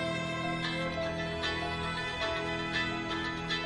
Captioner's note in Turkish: Telefon çalar